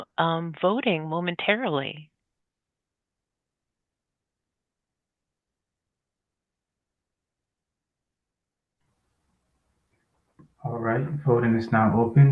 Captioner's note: pause